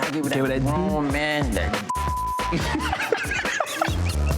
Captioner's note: beep; both laughing